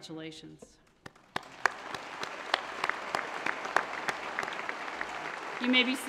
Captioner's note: applause